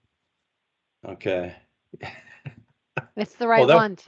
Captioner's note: laughs